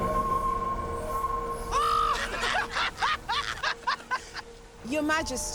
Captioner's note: all laughing